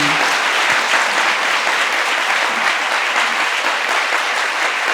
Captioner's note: participants applauding